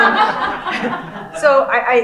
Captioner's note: laughing